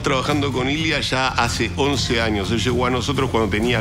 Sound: continues to speak in Spanish

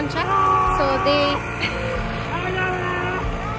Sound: aaaaaahhh

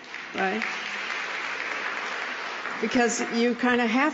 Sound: applause

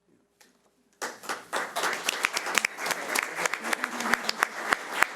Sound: audience clapping

